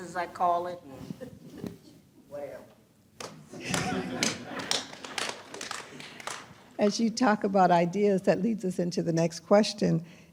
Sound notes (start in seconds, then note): 3.5 laughter